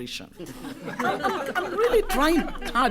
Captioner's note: laughter